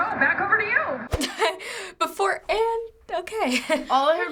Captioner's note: laughs